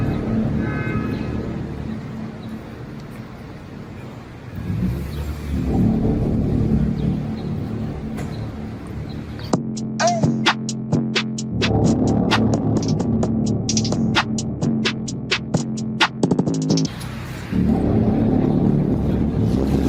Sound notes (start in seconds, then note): 0.0 drama music; 5.9 footsteps